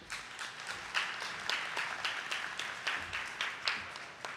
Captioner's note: attendees clapping